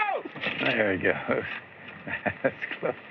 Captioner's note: chuckles